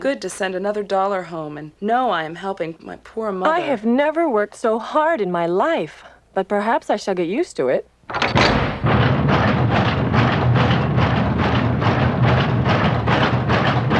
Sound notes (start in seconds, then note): 8.1 machines clank and roar